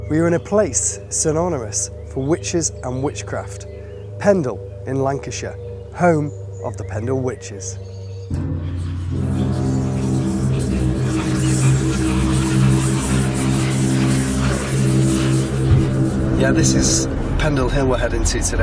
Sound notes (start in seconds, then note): 8.3 dramatic instrumental music; 8.3 whispering